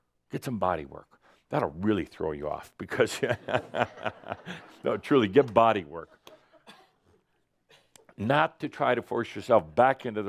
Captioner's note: Adamus chuckles